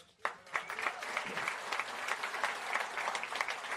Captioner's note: applause